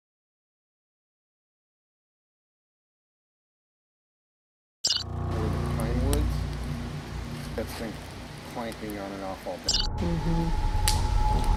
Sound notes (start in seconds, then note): 4.8 glitch beeps